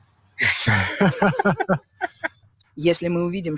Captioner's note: chuckling nervously